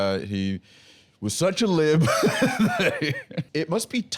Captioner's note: laughs